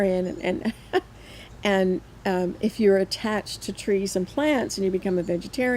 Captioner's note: laughs